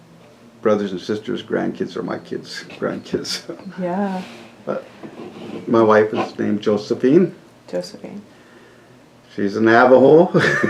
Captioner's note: laughter